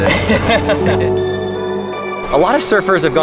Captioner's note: laughs